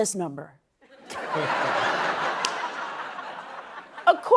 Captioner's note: laughter